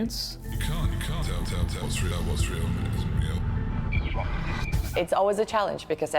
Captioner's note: voiceover